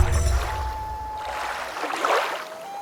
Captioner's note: water rushing, loon calling